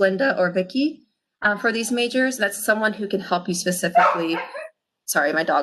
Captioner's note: laughs; dog barking